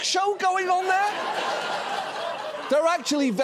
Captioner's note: audience laughs